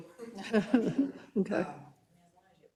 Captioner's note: laugh